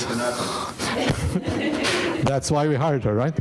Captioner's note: audience laughing